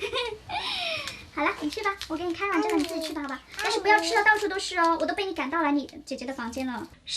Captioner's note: annoying chatters